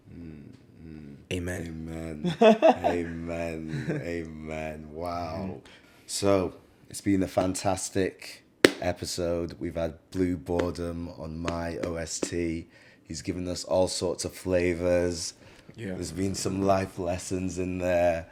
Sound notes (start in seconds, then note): 5.4 laughs